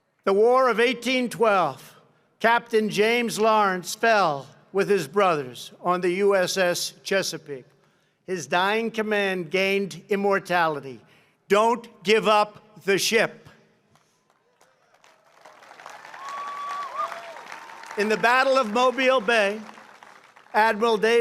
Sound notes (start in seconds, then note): 13.9 applause